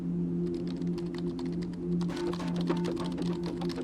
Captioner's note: keyboard clicks